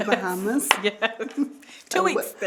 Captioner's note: laughing